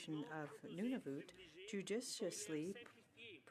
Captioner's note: speaking French